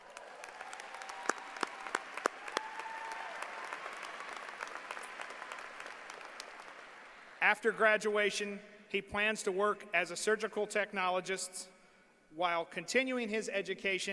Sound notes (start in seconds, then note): 3.8 applause